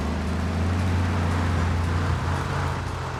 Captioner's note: tires screech